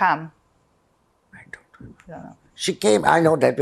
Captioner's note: whispering